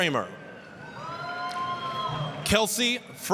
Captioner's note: applause, cheering